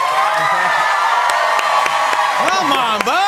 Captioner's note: cheers and applause